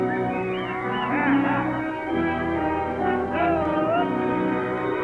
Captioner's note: cowboys prod and whistle; cattle low